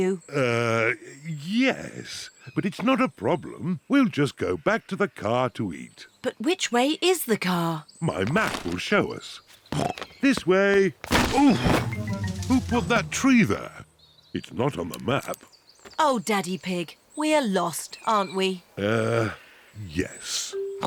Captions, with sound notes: Uh, yes. But it's not a problem. We'll just go to the car to eat. -But which way is the car? -My map will show us. (SNORTS) This way! Oof! Who put that tree there? It's not on the map. -Oh, Daddy Pig, we're lost, aren't we? -Uh, yes.